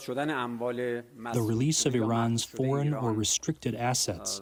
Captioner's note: through translator